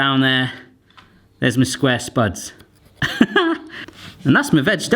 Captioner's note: laughing